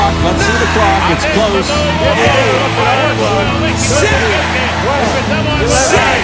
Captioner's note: Spanish